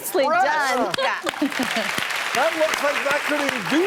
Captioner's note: audience applauding